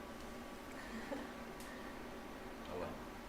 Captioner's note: laughter